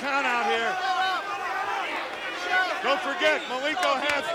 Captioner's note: crowd yelling